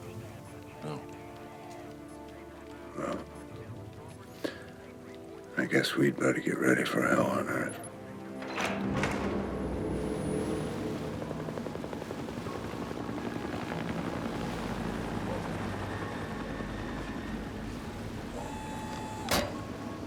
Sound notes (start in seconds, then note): 10.8 aircraft noise